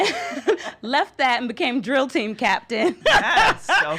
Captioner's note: laughing